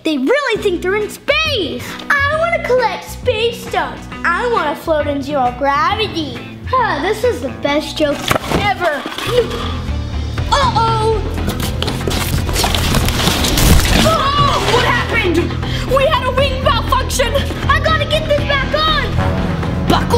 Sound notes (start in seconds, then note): 9.3 gasps; 11.4 tense orchestral music; 11.4 rustling; 13.9 girls yelling